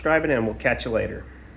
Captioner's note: engine Running